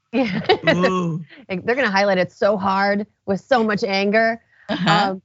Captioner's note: laugh